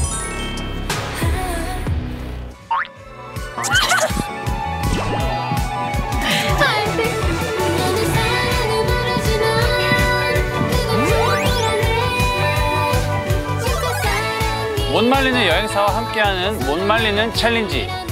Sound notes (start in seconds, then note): 3.6 running